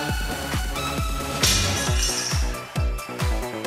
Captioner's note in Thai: เสียงไม้บรรทัดตก